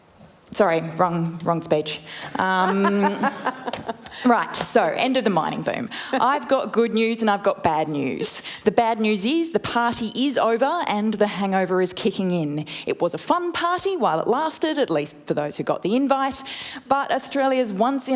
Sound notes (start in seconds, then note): 2.3 laughter